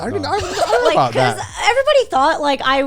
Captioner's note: guys laughing